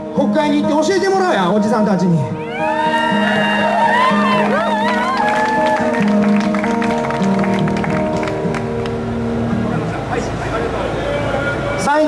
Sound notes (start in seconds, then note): 2.3 audience cheers as his guitar goes on calmly